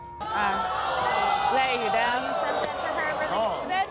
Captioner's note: audience groans